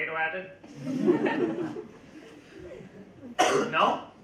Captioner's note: audience laugh